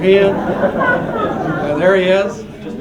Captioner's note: laughter